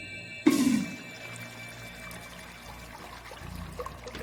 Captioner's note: water splashing